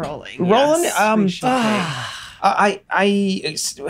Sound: Charlie sighs

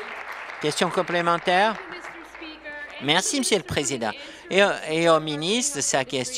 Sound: applause

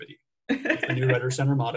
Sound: chuckles

